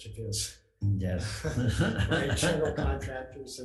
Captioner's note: laughing